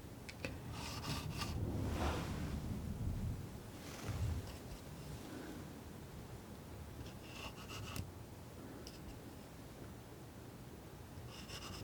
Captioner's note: scratching